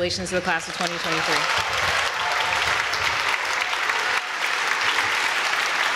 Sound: applause

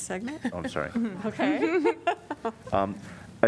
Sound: laughter

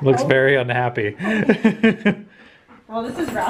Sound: laughs

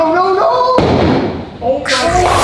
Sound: ball slamming

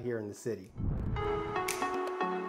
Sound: air whooshing

